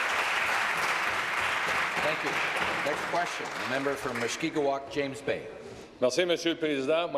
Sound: applause

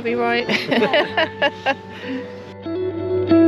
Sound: laughing

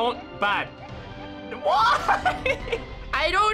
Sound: laughing

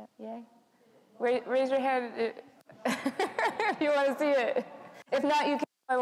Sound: laughs

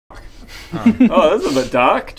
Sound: remorseless laugh

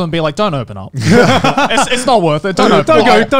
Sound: laughing

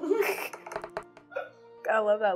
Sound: dice thudding

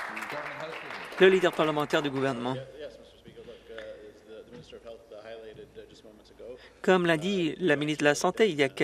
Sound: some Applause

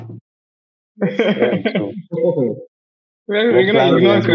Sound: laughter

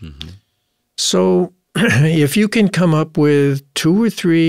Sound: cough

